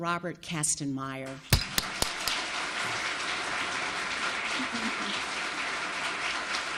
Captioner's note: audience applauding; claps